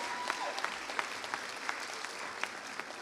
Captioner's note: applause